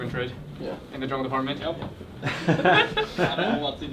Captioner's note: laughs